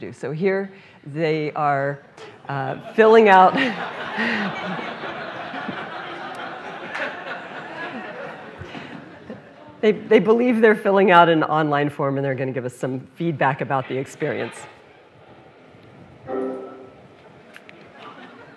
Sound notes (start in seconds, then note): 3.5 laughter; 16.2 computer tone